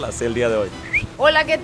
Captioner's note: Torta whistle